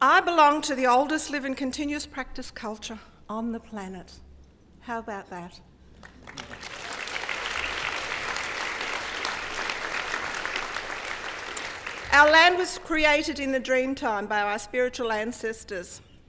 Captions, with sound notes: I belong to the oldest living continuous practice culture on the planet, how about that? >> [APPLAUSE] >> Our land was created in the dream time by our spiritual ancestors.